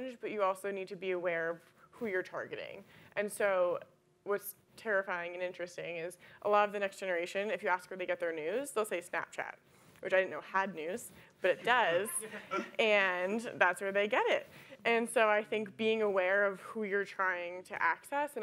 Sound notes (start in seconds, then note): 12.2 audience laughing